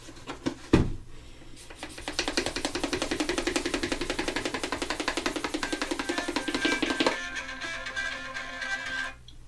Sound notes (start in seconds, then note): 5.6 phone ringing